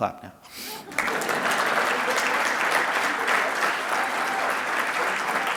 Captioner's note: audience applauding